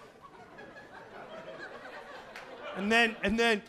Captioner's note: audience laughing